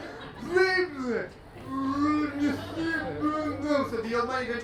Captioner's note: sonidos de cerebro derretido